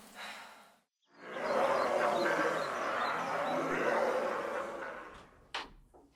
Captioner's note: demonic growls and snarls